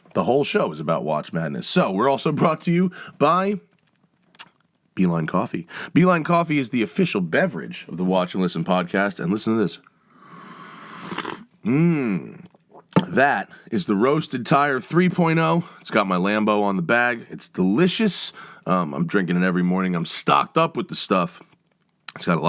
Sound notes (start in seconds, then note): 10.6 coffee slurps